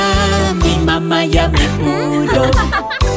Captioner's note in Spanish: Risas